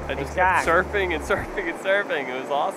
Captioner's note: laughs